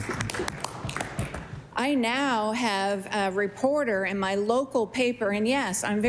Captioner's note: applause